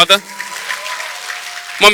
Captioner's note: audience Applause